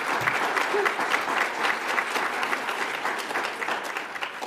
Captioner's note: audience applauds